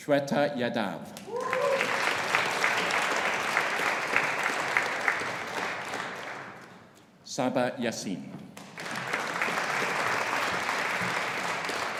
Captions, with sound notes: Shweta Yadav. (AUDIENCE APPLAUDING) (AUDIENCE CHEERING) Saba Yaseen. (AUDIENCE APPLAUDING)